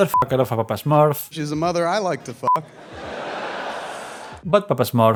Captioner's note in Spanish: risas